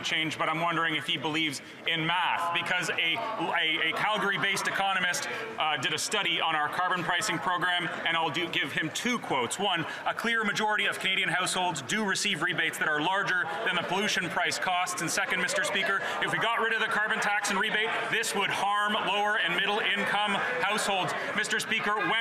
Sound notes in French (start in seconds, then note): 2.3 voix de l'interprète